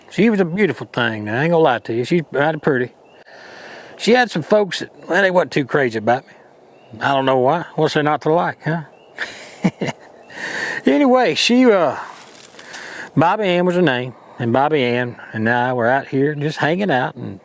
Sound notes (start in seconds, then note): 9.1 chuckles